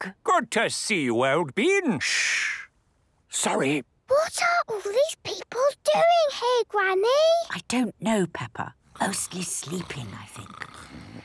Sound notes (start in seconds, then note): 2.7 whispering; 4.1 quietly